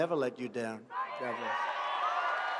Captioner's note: cheering and applause